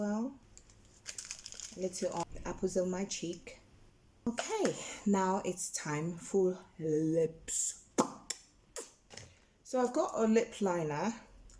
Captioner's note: lip Smack!